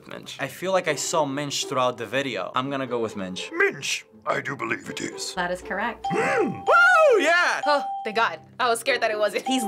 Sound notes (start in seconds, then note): 3.5 Yoda-ish voice; 6.0 sighing; 6.1 Yoda-ish grunt